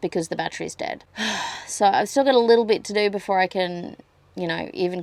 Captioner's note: sighs heavily